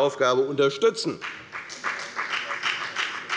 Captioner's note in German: Beifall bei der FDP